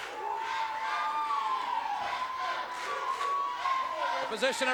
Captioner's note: crowd chants loudly